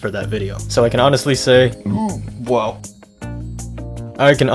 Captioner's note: burp